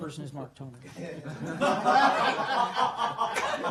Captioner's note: laughter